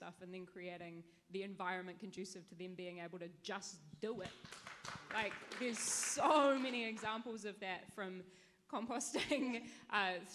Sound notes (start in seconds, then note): 4.2 audience claps